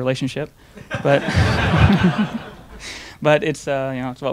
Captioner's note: audience laughing